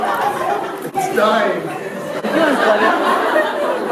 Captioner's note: audience laughs